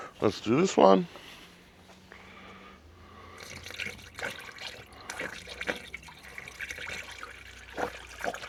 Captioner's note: water splashing